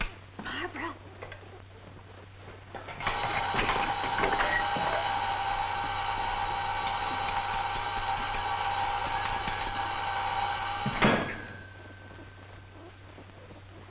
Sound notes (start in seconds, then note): 3.2 alarm clock ringing; 11.2 clock thuds